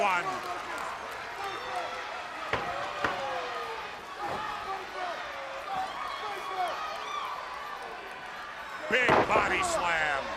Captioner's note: crowd chatter